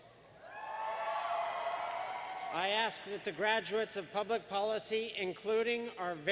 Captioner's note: applause